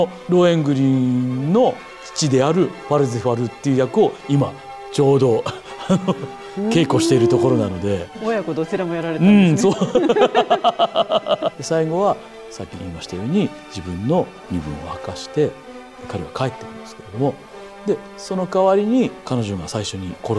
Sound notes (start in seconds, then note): 10.9 laughs